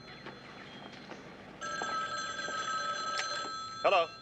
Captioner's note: phone continues ringing